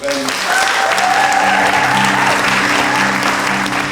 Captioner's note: audience applauds; upbeat music plays